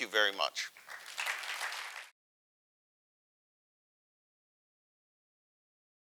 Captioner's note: audience applauding